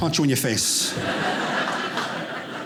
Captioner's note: audience laughing